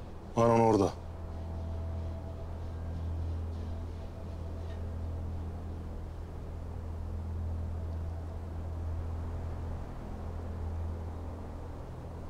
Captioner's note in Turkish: Uğultu Sesleri